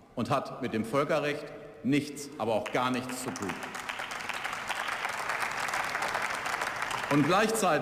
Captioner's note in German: Beifall